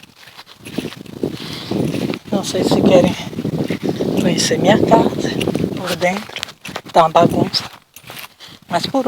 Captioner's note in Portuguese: vento